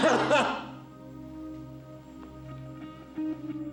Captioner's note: Jeff cries loudly